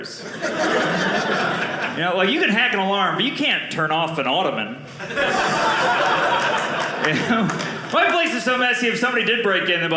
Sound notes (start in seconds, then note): 0.2 audience laughing; 5.0 audience laughing